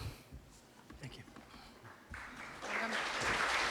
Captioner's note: applause